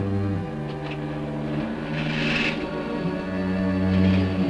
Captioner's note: car engine starting